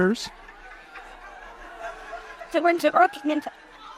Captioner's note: audience chuckles